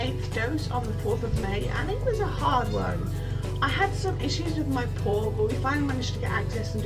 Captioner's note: cat meows